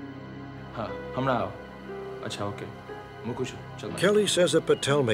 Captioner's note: non-english speech